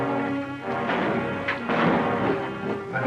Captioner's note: gunshots